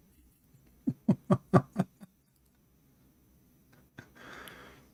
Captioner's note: Ketawa